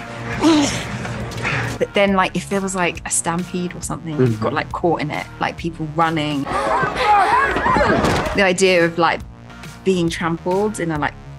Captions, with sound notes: But then, like, if there was like a stampede or something and I got, like, caught in it, like people running-- [SCREAMING] --the idea of, like, being trampled in a, like,